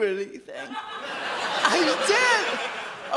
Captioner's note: audience laughs